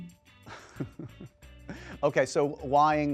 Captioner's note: chuckles